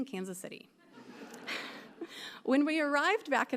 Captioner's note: audience laughing